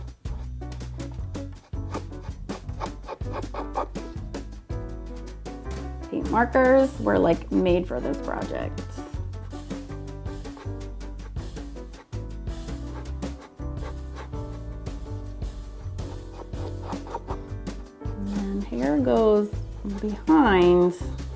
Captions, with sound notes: (marker scratching) Paint markers were made for these projects. (upbeat music) (marker scratching) And hair goes behind as well.